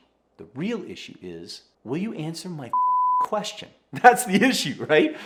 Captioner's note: beep